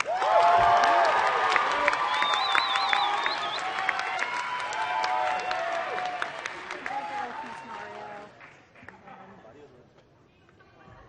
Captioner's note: applause